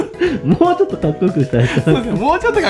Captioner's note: laughs